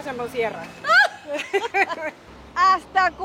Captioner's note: laugh